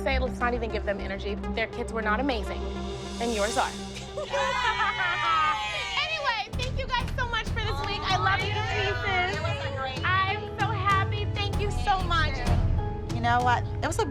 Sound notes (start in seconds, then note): 4.0 laughs; 4.1 all cheering